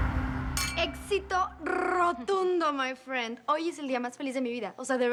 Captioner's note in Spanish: Choque de copas